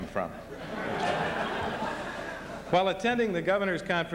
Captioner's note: laughter